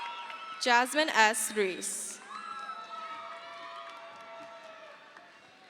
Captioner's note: crowd cheers